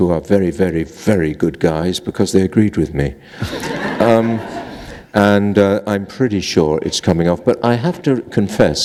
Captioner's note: laughter